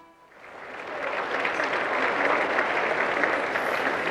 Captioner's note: applause